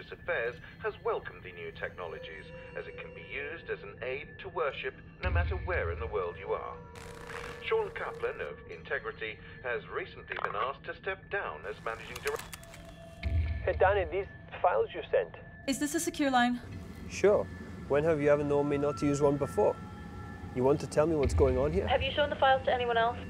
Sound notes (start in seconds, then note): 13.1 computer alert; 18.9 threatening music